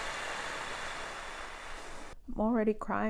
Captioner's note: exhales deeply